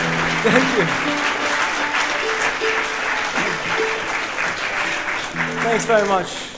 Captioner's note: audience applauding